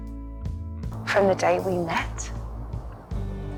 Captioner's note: voiceover